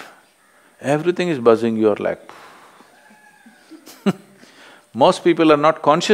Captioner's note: laughs